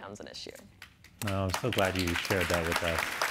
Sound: audience applauding

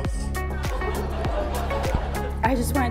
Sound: audience laughs

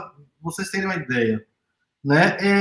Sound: speaks portuguese

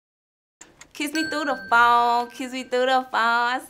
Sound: bell dings

